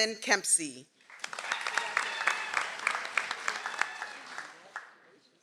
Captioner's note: audience applauds